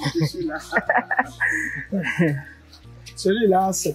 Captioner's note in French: rires